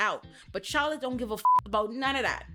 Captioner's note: beep